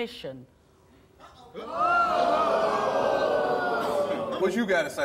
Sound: audience gasping

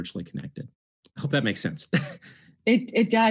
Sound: chuckles

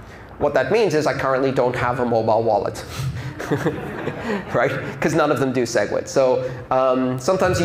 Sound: laughter

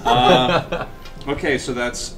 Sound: all laugh

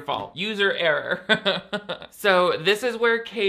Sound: laughing

